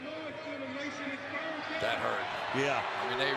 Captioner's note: pa announcement